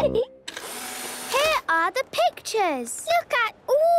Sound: whirring

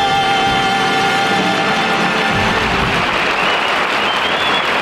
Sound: audience applauding

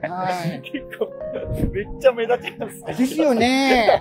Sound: laughing

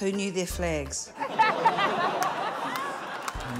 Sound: laughter

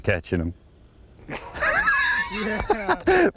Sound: laughter

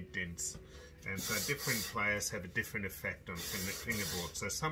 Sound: scraping; scraping

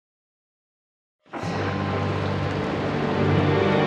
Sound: thunder crashing

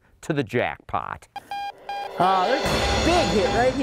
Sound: beeping

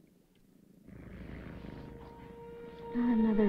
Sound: cat softly purring; ominous music

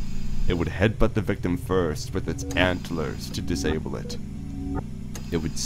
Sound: mechanical ambiance; mechanical ambiance

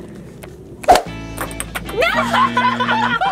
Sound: laughing; eyeball whooshing; laughing

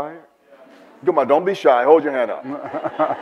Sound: audience murmurs and laughs

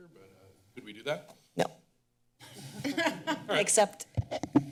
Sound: laughter

